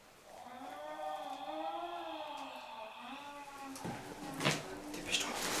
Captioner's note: cat growling and moaning; speaks French